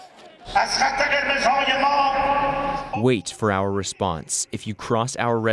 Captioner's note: through translator